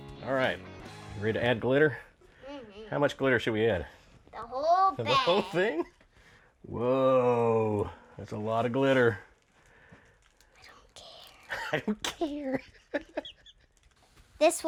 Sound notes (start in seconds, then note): 5.0 chuckling; 10.7 whispers; 11.5 laughing